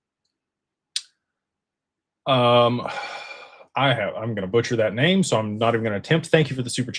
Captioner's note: sighs